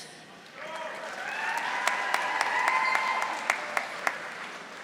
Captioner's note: audience applauding